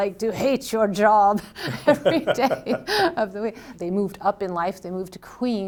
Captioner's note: laughs